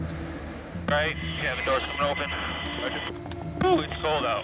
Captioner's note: static